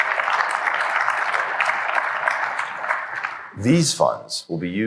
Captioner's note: applause